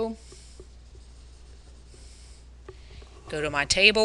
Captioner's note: pen scratching